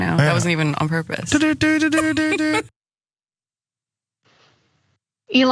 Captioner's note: laugh